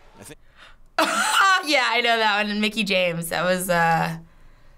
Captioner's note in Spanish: Risas